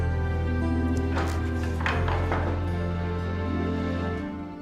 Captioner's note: door opens